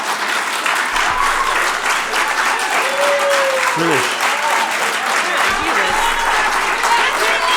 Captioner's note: applause